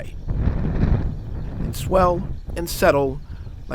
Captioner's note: wind blowing